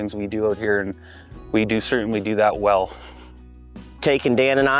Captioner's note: chuckles